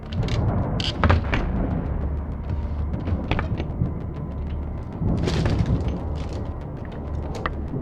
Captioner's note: tense music continues; thunder rumbling